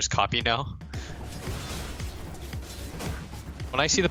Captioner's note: game audio